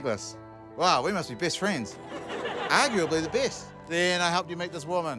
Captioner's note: laughter